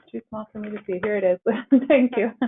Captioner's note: laughs